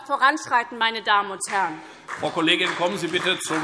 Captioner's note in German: Beifall SPD